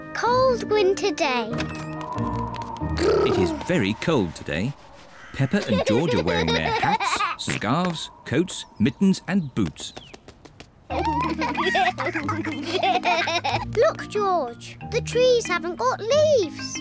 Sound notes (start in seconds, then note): 1.9 wind whistles; 10.9 both giggle